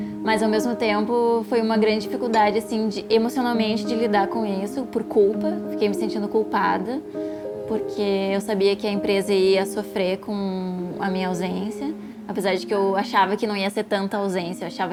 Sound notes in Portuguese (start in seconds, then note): none